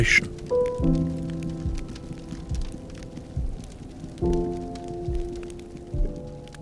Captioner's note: flames crackling; gentle music continues